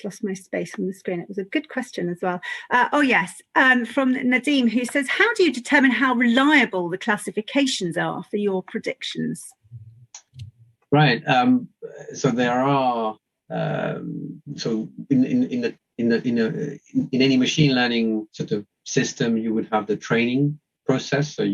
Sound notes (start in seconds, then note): 14.9 stammers